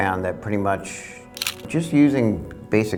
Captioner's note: camera clicking